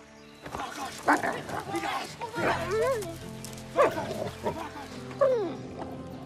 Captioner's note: shouting; whimpering